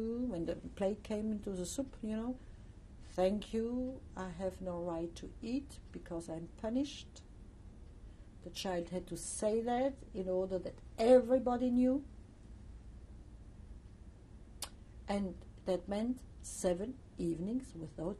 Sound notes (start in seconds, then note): 12.0 pauses for 3 seconds